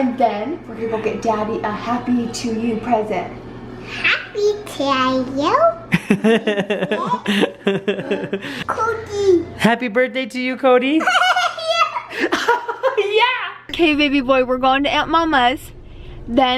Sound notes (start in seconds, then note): 5.9 laughing